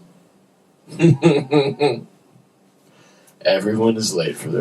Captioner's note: laughter